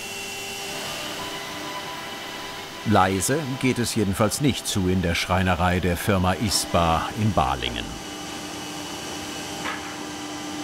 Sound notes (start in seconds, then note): 8.2 machine noise